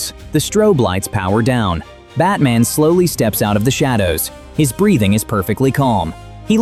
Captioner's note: thoughtful